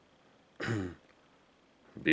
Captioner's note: cleats throat